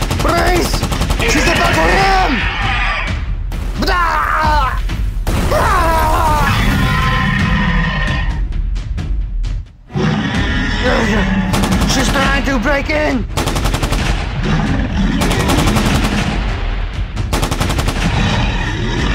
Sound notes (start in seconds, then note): 3.5 screams; 5.8 Indominus roars; 9.9 grunts; 13.3 machine guns firing